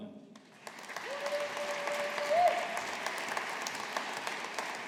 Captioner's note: audience applauding